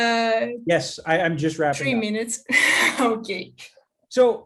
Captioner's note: chuckles